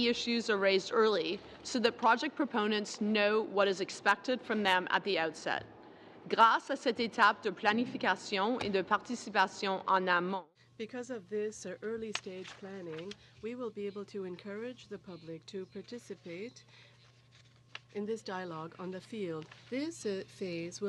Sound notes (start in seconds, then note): 9.9 speaking french